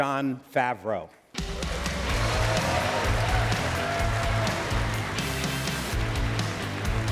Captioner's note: applause